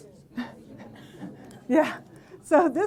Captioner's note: audience laughing